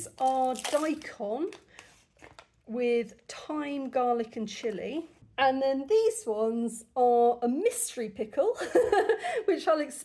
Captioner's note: laughter